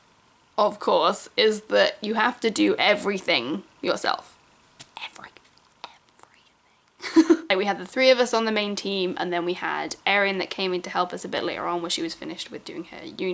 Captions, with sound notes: course, is that you have to do everything yourself. Everything. [whispers] Everything. Like we had the three of us on the main team and then we had Erin that came in to help us a bit later on when she was finished with doing here uni